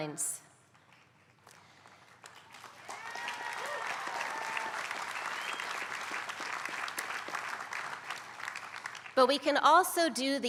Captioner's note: applause